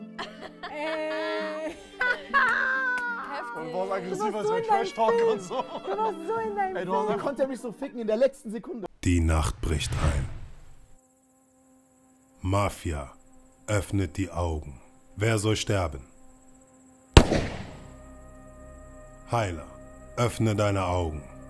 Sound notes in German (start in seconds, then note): 2.6 Lachen; 10.6 Spannungsvolle Musik; 17.2 Schuss